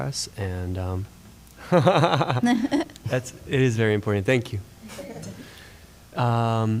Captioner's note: laughter